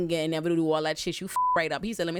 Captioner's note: beep